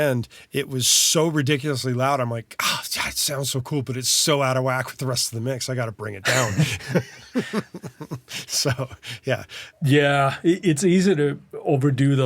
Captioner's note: laughs